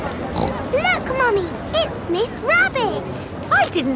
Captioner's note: snorts